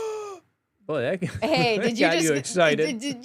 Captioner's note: gasps